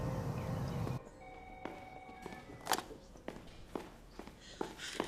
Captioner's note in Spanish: Suena el teléfono